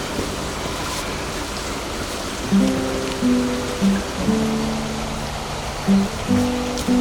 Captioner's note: sound of footsteps